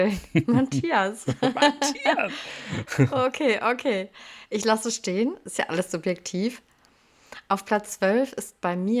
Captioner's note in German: gelächter